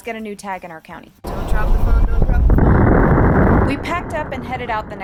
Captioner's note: wind